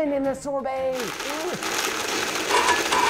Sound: blender grinding; blender malfunctioning

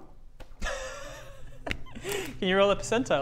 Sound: excited giggle

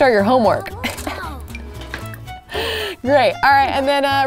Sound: laughs

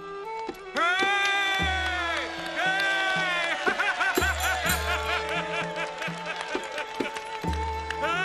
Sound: laughs

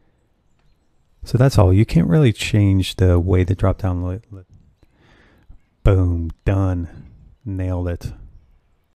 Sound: voice fades

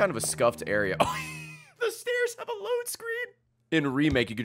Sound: laughs

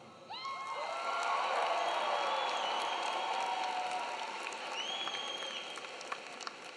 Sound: audience cheering; audience clapping

